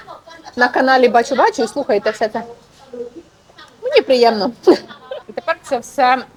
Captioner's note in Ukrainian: сміх